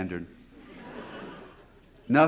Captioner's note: laughter